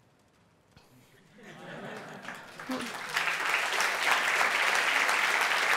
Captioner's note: applause